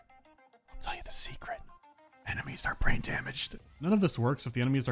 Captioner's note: whispering